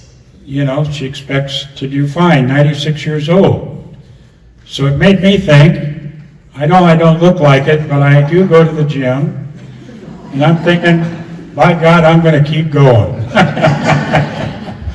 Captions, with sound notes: you know, she expects to do fine. 96 year old. So it made me think, I know I don't look like it, but I do go to the gym [laughter] and I'm thinking, by God, I'm going to keep going. [laughs]